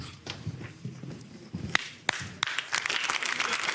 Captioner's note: clapping